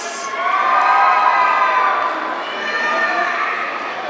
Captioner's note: audience cheering